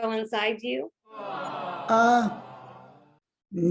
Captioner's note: "aww...!" overhead audience reaction